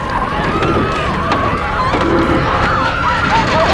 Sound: passenger screaming, crying

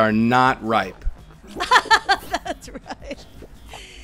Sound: laughing

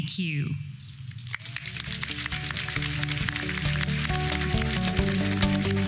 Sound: applause

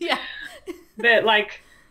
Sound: laughs

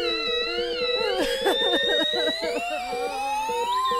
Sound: sobbing

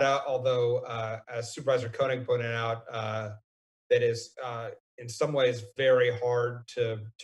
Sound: none

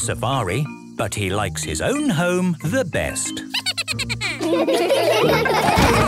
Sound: Steven giggles; all laughing

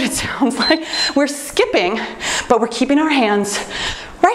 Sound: timer beeps

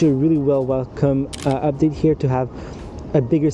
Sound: camera clicking

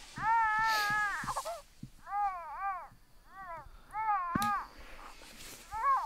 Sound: baby crying

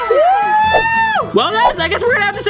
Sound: wooing

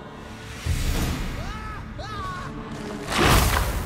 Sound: screams in terror

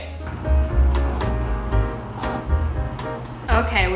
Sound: light jazz music; microwave whirring

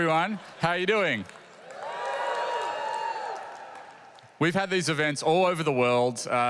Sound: applause

